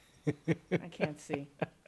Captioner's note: laughing